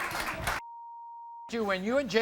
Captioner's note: beep